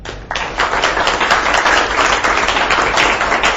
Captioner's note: students clap